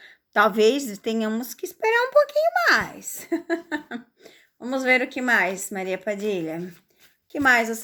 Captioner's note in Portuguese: risadas